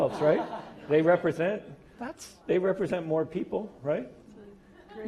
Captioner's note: laugh